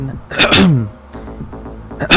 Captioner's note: cough